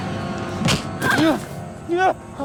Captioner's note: screams; grunts; breathing heavily